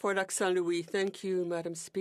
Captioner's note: speaking French